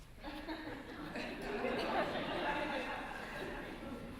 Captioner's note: laughter